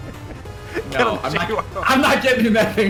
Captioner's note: laughs